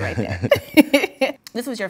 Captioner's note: laughs